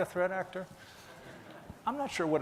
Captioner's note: laughing